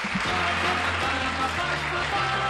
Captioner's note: applause